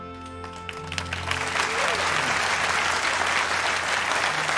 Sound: audience clapping

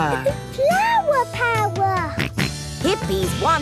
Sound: George snorts

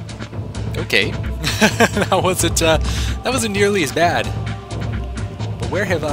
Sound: laughs

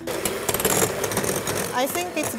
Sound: mixer whirring

